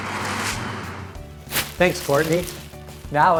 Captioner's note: pompom crunches